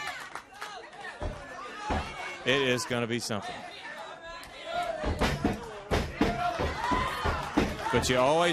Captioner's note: crowd chatter